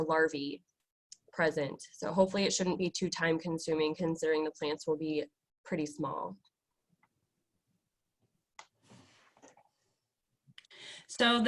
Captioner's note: long pause